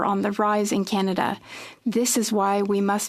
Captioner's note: speaking French